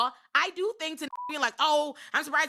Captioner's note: beep